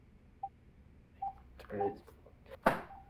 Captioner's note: multiple phone beeps; phone clunking